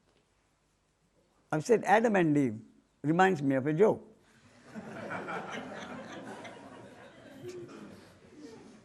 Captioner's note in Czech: smích